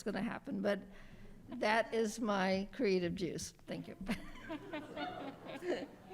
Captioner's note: laughs